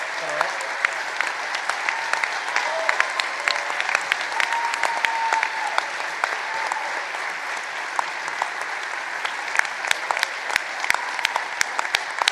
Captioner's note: applause